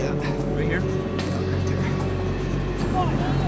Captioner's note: student grunts